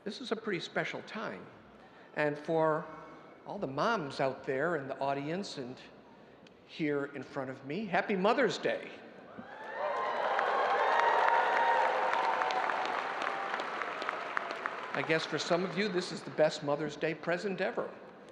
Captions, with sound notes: This is a pretty special time. And for all the moms out there in the audience and here in front of me, happy Mother's Day. (audience applauding and cheering) I guess for some of you, this is the best Mother's Day present ever.